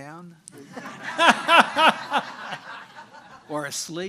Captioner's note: audience laughing